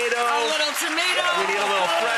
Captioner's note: audience cheers and claps